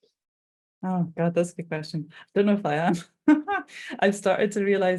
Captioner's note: chuckling